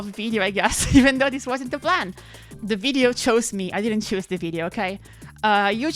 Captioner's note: chuckles